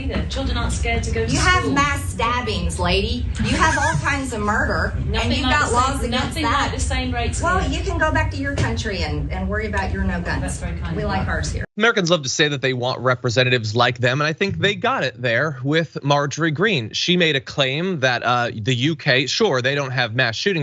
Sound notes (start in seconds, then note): 3.3 laugh